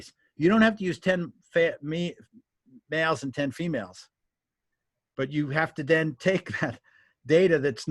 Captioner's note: laughs